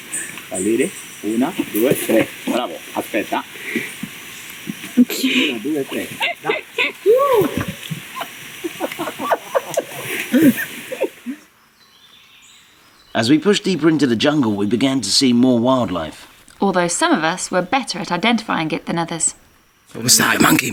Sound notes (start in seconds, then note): 4.5 chuckles; 8.7 laughter